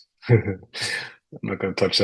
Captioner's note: chuckles